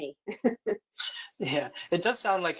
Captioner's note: laughs